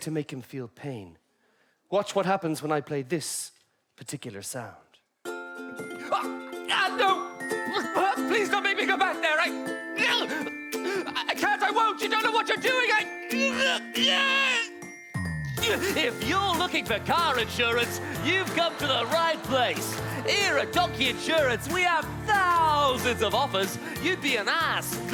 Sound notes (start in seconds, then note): 17.3 upbeat voice